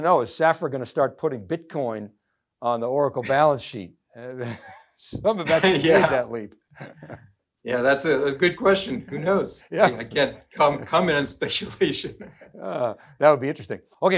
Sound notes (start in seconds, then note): 6.7 laughs